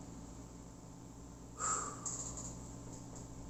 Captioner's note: exhales